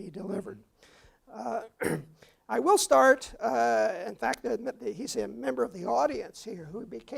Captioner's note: cough